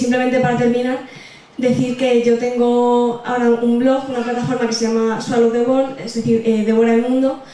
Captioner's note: in Spanish